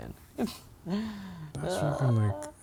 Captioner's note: laughs